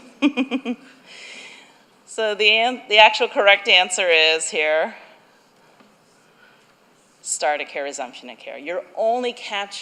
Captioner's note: laughter